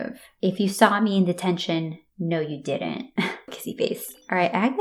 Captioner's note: chuckle